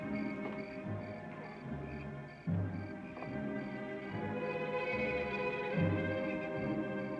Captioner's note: crickets chirping; ominous music